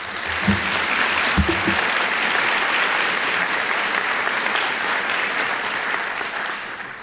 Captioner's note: applause